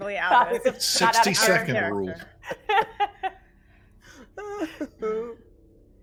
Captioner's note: laughing